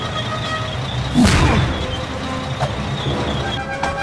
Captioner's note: scared german noises